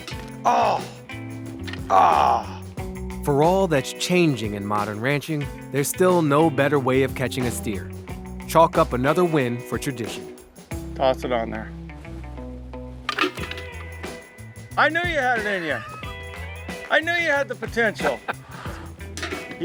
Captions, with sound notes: - Oh. Ah. For all that's changing in modern ranching, there's still no better way of catching a steer, chalk up another win for tradition. - Toss it on there. (can clacks) I knew you had it in you, I knew you had the potential. (Baratunde laughs) (can clacks)